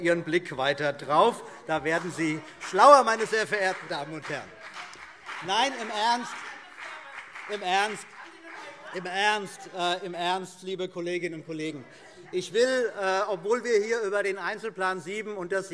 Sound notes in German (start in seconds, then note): 3.3 Beifall CDU und BÜNDNIS 90/DIE GRÜNEN - Zurufe SPD und DIE LINKE